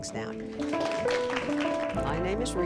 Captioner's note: applause